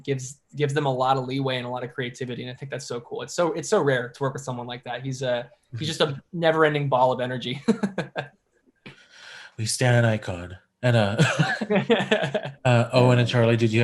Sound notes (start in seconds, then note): 7.5 laughs